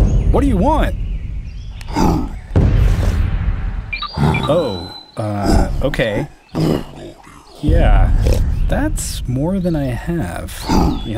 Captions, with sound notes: What do you want? (grunts) Oh, okay. Yeah, that's more than I have.